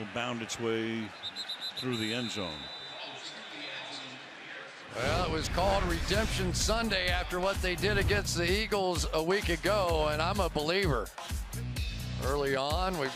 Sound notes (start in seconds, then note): 3.9 pa announcement